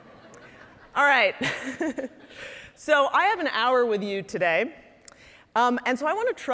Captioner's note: laughing